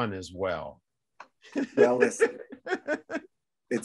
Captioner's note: laughs